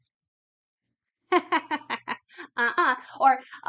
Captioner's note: laughs